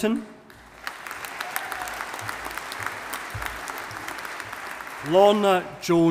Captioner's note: audience applauding